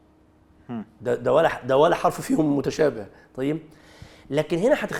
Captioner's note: in Arabic